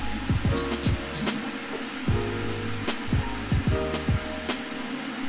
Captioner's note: washing hands